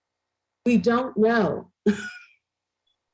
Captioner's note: laughs